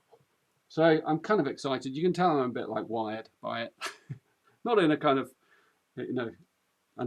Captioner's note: laughs